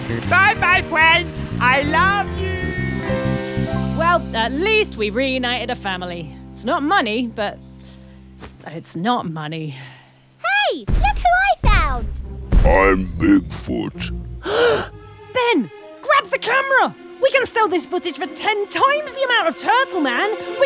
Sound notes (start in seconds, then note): 14.4 dramatic music; 14.4 Lucy gasps